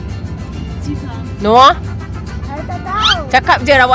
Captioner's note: speaking German